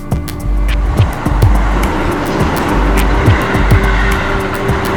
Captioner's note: train whooshing